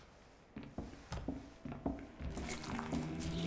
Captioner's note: footsteps tap; sinister music; liquid splashing